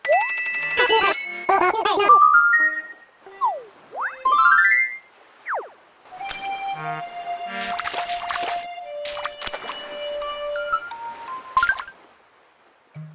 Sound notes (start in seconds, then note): 7.4 footsteps